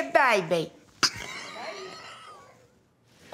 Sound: laughs

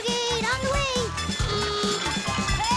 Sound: honking

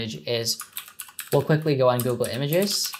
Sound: keyboard typing

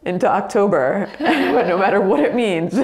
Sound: both laugh

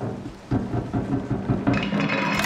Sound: loud banging

